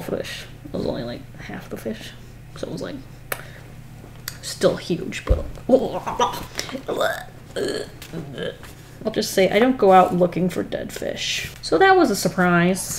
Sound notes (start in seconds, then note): 5.7 noises of disgust